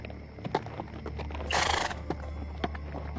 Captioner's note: horse whinnying